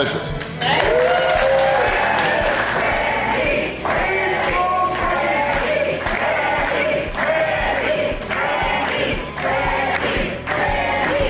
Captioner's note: crowd cheering and applause